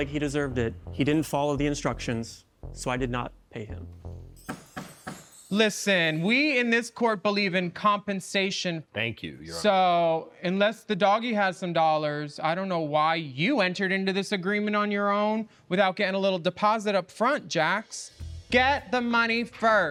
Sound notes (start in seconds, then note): 3.7 mystical music; 4.4 gavel banding